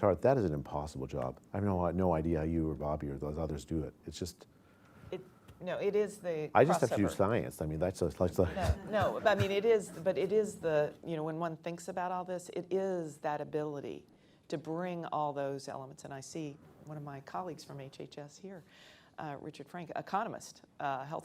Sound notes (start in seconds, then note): 8.4 laughter